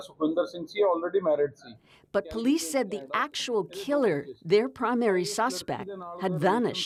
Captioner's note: speaking alternate language